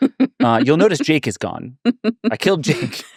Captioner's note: laughing